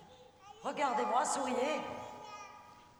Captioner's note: speaking french